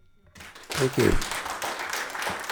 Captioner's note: audience applauding